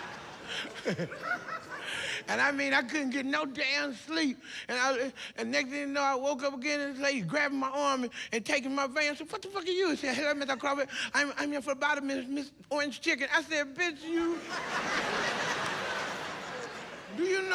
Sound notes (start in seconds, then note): 0.0 laughs